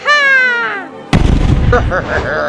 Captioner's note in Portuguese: Kabuuuumm